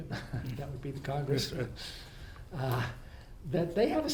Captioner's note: laughs; laughs